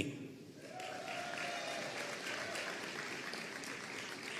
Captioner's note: audience applauding